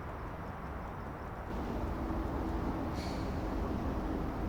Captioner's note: traffic humming